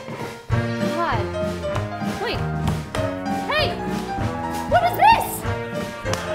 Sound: speaking

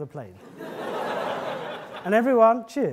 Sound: audience laughing

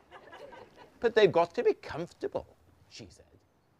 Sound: audience laughter; posh voice

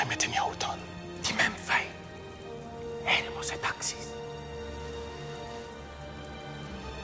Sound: friend whispering in foreign language; somber orchestral music

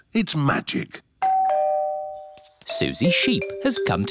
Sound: doorbell

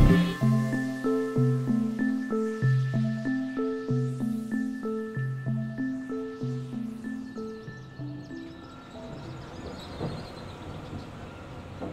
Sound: horns honking; birds chirping

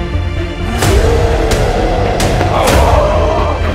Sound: groaning; roaring

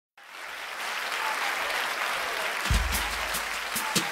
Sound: applause

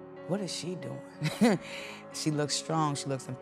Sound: woman laughs

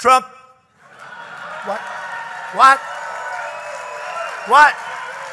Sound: laughter and applause

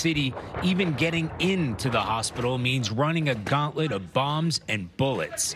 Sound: explosions

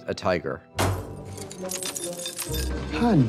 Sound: banging

